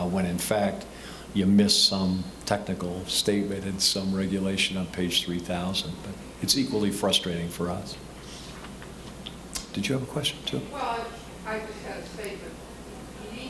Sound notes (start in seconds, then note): none